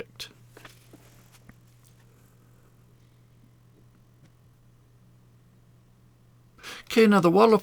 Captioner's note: silence